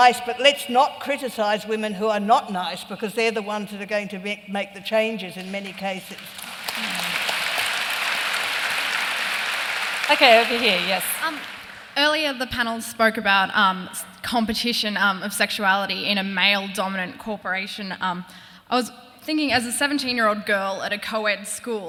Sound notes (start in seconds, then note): 6.1 applause